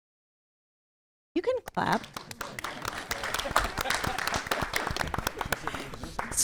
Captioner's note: applause